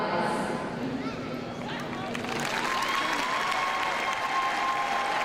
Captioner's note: crowd cheers